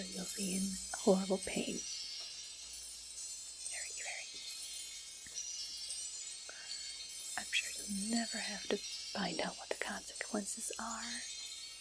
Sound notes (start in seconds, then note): 2.0 twinkling sounds; 3.6 whispers